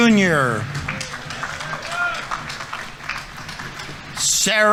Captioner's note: audience applauding